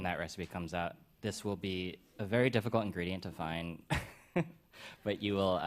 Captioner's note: chuckles